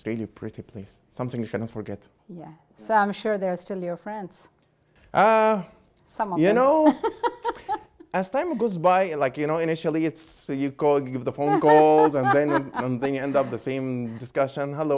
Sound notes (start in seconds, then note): 6.5 laughing; 11.4 Gingrich laughs